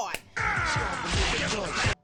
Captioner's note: screams